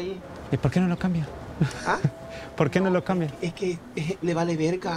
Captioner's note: speaking in Spanish